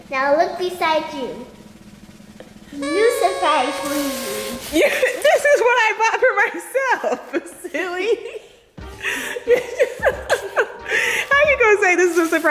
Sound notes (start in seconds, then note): 1.3 drum roll; 2.7 air horn; 9.0 laughing